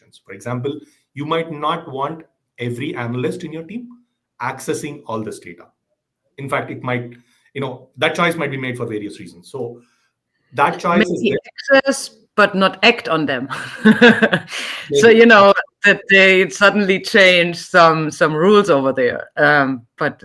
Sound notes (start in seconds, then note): 13.5 laughing